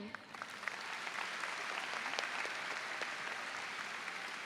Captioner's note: audience applauds